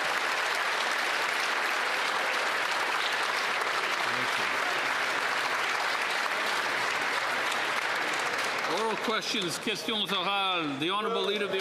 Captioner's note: applause